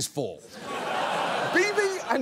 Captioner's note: audience laughs